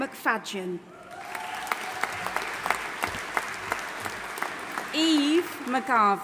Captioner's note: audience applauding and cheering